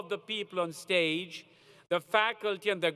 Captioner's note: none